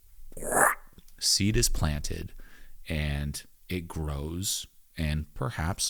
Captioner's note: imitates hand whooshing